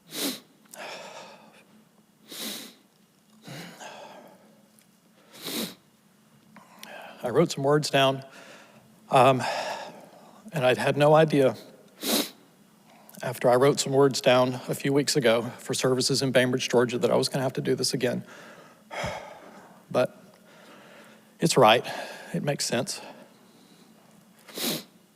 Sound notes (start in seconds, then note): 0.0 sniffling; 0.2 sighs; 12.0 sniffles; 18.9 sighs; 24.4 sniffles